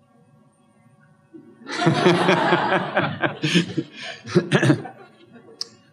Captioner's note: laughter